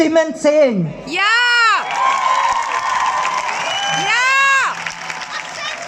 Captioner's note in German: Applaus